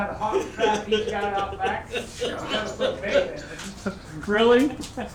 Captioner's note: laughing